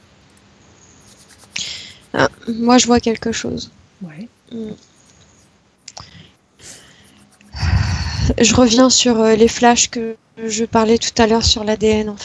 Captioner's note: inhalation